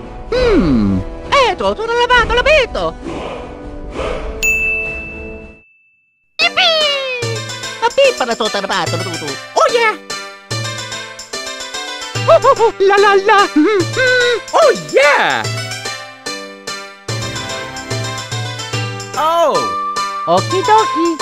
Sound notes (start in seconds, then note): 4.4 ding; 13.2 hums